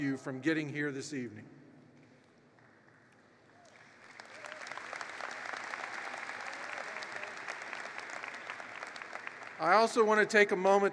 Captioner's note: applause